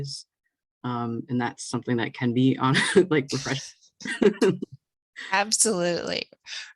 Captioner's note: chuckling